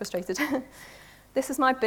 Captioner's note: laughs